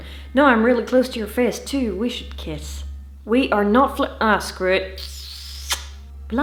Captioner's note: smoooch